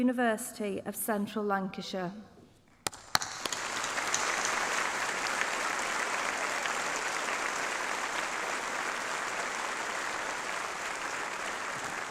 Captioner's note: applause